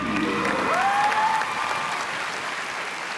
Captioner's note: applause